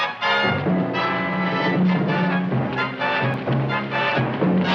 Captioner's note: dramatic music; feet thumping